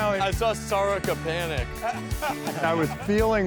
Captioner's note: laughing